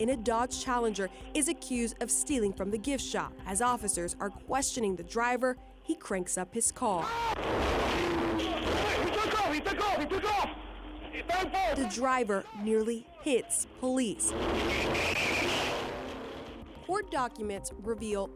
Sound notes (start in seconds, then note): 6.2 car engine revving; 6.2 officers yelling; 14.2 tires screeching